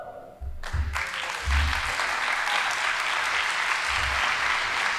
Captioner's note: audience applauding